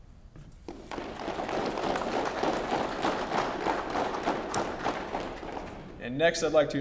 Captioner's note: applause